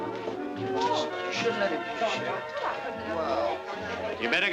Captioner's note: people chattering indistinctly